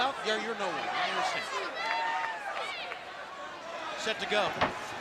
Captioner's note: crowd chatter